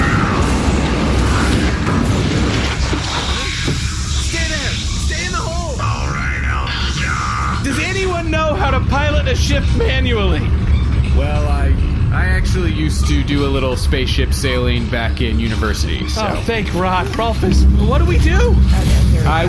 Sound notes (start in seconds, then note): 0.0 screams; 3.9 shouting